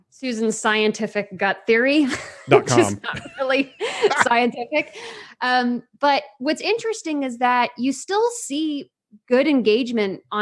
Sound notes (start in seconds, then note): 3.8 laughs